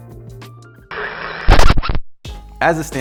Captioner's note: record scratches